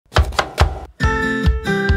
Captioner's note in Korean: 칼도마소리